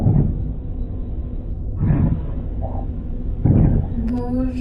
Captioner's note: waves rushing; speaking in foreign language